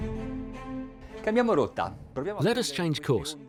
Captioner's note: speaking in a foreign language